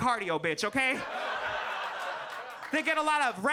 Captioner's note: audience laughs